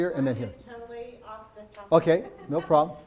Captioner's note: laughs